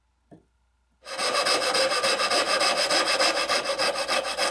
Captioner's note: saw scrapes